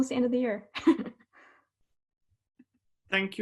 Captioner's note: giggles